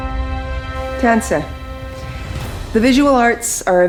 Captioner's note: speaking in Cree